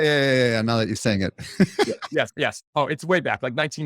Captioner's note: laughing